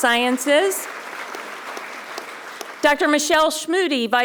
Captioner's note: audience applauding